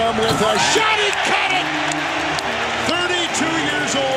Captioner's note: crowd cheering